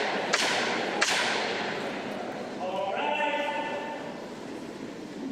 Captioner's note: sounding gavel